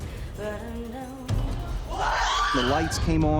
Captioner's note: screaming